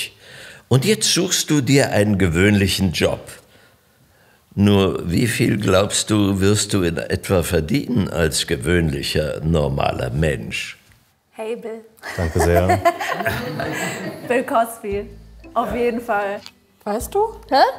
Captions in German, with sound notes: Und jetzt suchst du dir einen gewöhnlichen Job. Nur wie viel, glaubst du, wirst du in etwa verdienen als gewöhnlicher normaler Mensch? Hey, Bill. - Danke sehr. (Lachen) Bill Cosby, auf jeden Fall. Weißt du? - Hä?